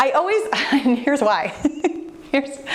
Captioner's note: laughs